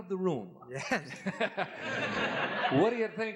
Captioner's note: laughter